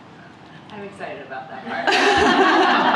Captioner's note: laughter